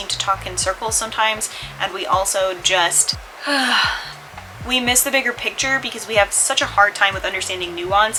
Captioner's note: sigh